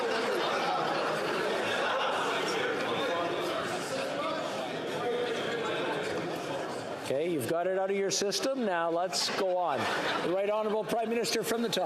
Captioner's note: yelling